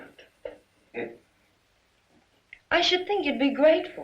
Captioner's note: father scoffs